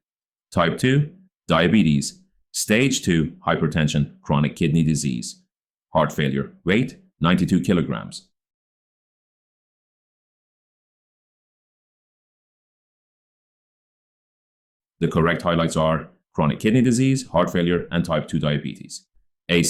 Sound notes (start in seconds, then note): 11.0 5-Second Pause